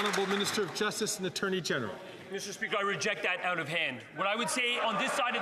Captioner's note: some Applause